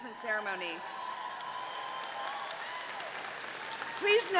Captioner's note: audience cheering